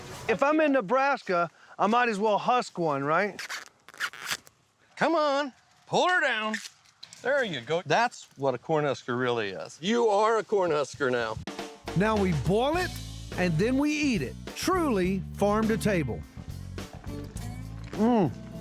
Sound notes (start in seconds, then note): 3.3 husking corn